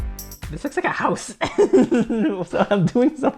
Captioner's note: laughs